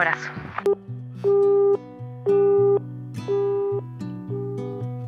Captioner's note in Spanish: Tono de llamada